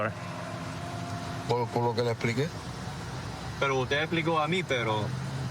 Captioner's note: speaking spanish